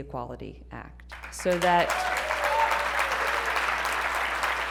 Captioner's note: applause